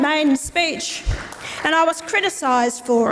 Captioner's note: audience applauds